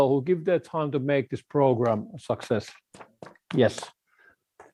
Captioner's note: clapping hands